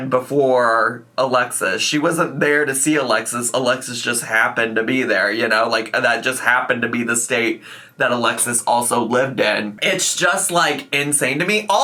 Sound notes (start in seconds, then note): none